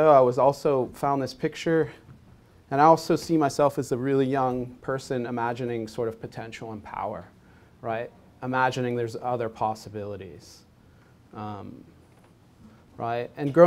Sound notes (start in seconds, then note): none